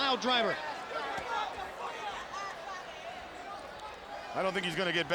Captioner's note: crowd chattering